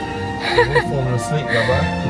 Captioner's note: chuckling